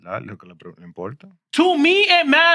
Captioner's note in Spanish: Hablando en idioma extranjero